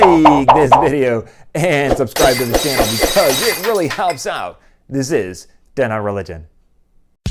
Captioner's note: glass-breaking